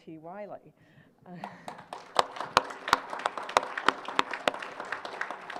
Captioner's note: applause